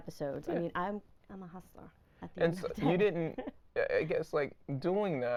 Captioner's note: laughing